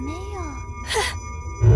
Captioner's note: gasp